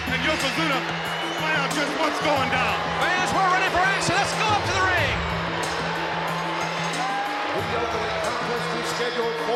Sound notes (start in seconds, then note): 6.7 bell ringing